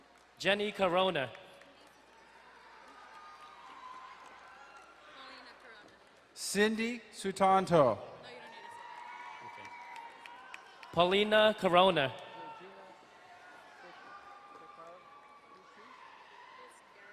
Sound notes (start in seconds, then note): 0.0 distant cheering; 1.5 crowd cheering and applauding; 8.5 crowd cheering and applauding; 12.7 distant cheering